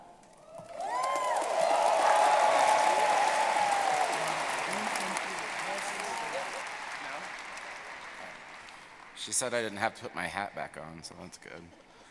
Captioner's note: cheers and applause